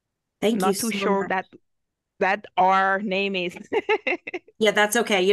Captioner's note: laughs